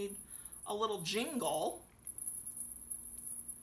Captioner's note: bells jingling